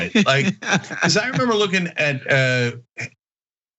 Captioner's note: laugh